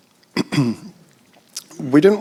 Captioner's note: clears throat